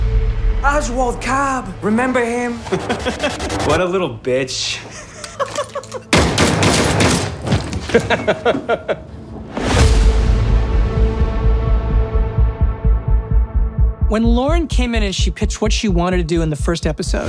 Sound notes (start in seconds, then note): 0.0 intense music plays; 4.9 laughs; 6.1 gunshots; 7.8 laughs